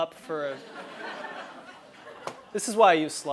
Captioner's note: laugh